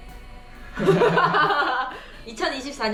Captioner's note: laughing